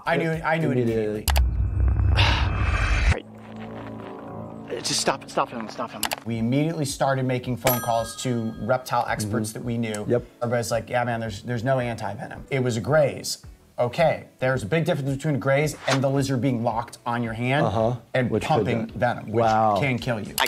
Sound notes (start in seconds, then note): 2.0 Coyote gasping